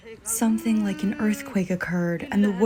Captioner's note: through translator